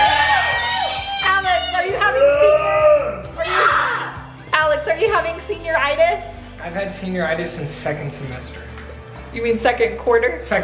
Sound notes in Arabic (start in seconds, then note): 0.0 هتاف متحمس; 2.4 يصرخ